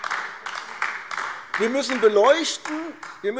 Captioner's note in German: Beifall AfD